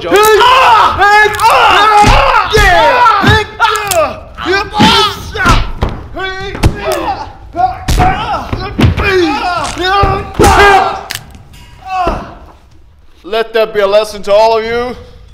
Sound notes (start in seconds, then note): 2.0 screams; 6.4 thud; 8.1 screams